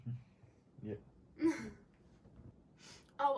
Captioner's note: laughs